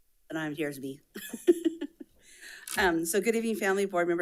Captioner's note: laughs